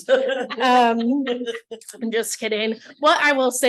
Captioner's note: laughter